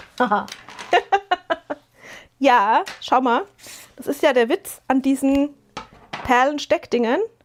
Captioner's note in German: gelächter